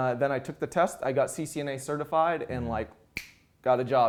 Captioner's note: snaps fingers